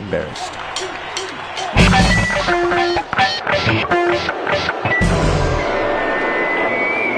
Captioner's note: the sounds of failure